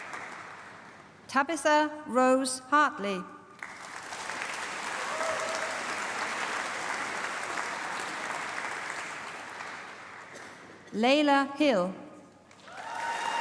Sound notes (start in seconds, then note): 3.5 applause; 12.4 applause